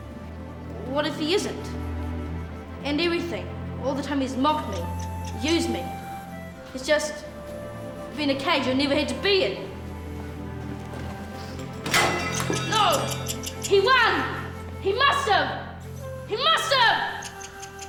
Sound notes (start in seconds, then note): 11.6 metal falling; 17.0 mouse squeaking